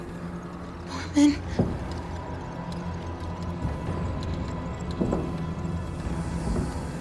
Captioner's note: eerie music; walking footsteps